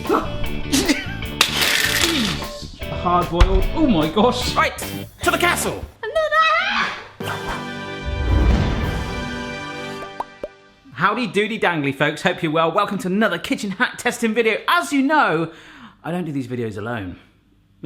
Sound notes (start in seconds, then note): 1.1 laughing; 6.2 exclaims